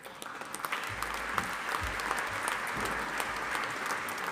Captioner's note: audience applauding